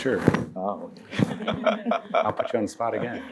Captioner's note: laughter